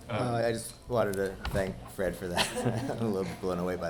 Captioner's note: chuckles